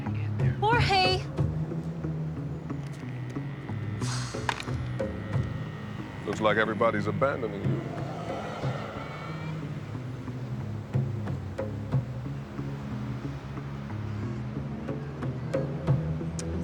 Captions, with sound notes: I'll call you when I get there. Jorge! (dial tone drones) Looks like everybody's abandoning you.